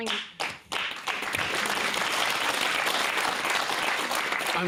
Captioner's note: applause